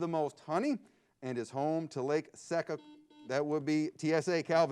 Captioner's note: buzzer beeps